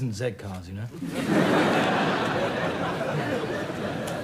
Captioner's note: audience laughs